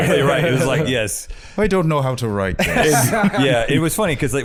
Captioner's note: Irish accent